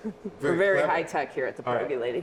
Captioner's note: laughing